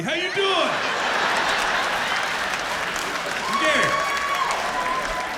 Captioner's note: laughter